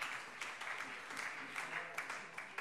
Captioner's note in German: Beifall